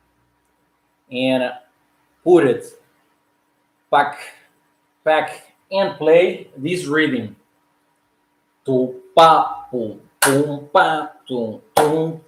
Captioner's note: beat imatation